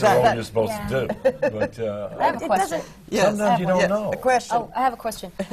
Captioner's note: laughter